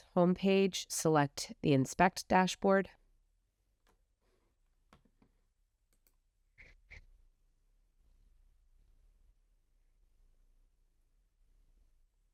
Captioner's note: silence